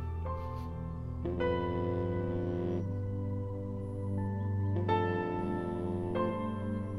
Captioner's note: Phone vibrating